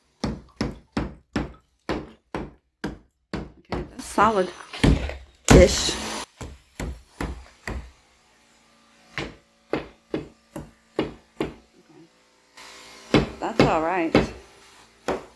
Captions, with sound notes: [Hammering] Solid... ...ish [Tapping] That's all right